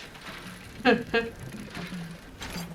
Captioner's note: laughs